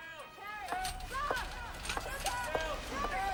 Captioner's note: staff shouting